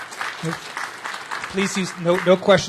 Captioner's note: applause